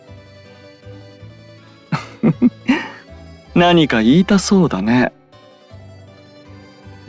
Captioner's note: laugh